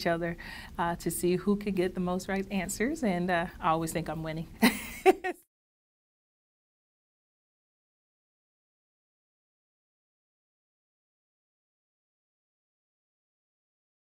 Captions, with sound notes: we compete against each other to see who can get the most right answers and I always think I'm winning [LAUGH]